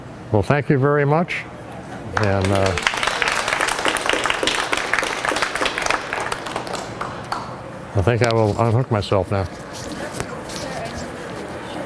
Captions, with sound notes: Well, thank you very much. And... (Applause) I think I will unhook myself now.